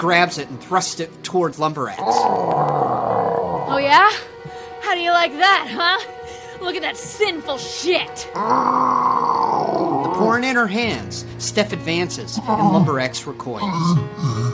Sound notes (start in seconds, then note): 8.2 Lumber Axe groaning